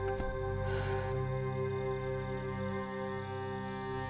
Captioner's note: Rachel sighs